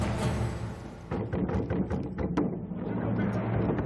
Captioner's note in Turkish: Kapı vurulması sesi